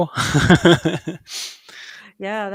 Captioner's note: laughs